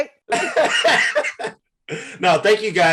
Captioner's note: Eric laughs